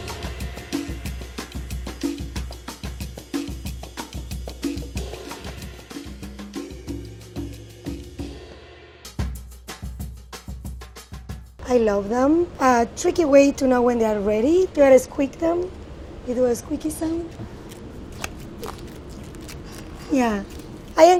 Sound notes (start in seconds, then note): 0.0 upbeat percussion music; 17.9 artichoke squeaking